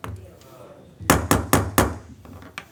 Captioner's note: crowd murmurs; gavel pounds